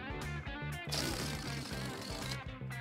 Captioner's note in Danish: prutte-lyd